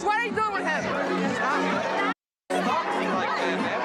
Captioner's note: loud crowd talking